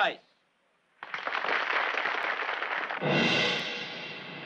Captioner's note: all applauding; dramatic orchestral music